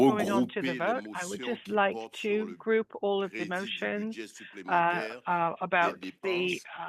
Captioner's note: speaking French